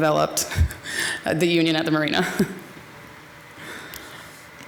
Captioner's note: chuckles